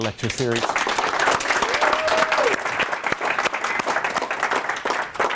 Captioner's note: audience applauds and cheers